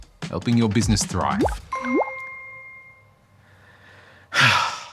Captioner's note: sounds of a phone notification can be heard